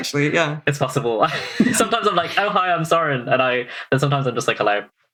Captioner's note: laughing